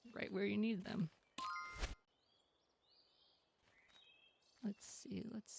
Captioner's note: sound effects